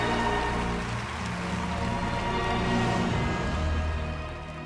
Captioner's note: applause